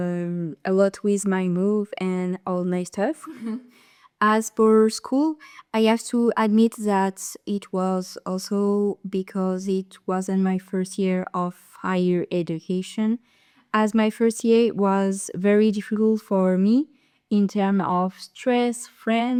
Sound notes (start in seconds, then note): 3.3 laugh